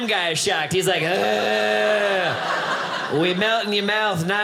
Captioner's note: groaning